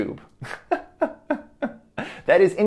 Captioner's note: laughs